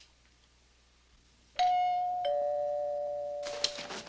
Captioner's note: doorbell rings